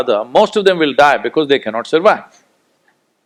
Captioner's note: none